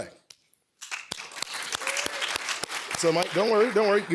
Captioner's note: applause